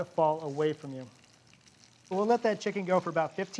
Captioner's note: chicken sizzles